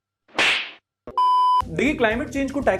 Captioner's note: beep